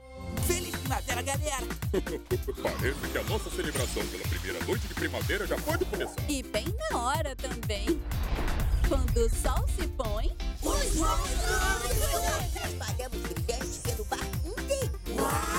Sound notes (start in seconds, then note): 1.8 chortles